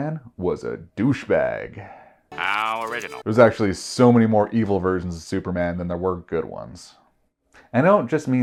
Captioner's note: gasp